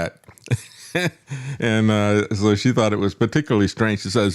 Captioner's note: laugh